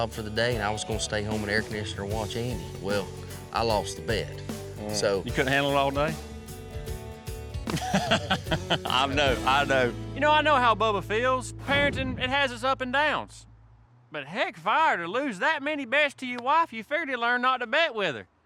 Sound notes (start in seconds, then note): 7.7 laughing